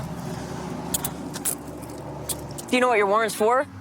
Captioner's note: handcuffs clicking